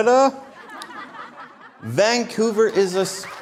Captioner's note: audience Laughter